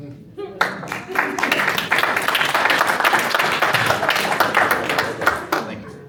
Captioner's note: applause